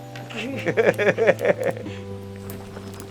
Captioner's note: both laughing